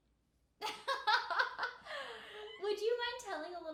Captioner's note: laughing